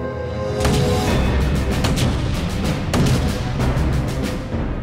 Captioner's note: suspenseful music; explosions booming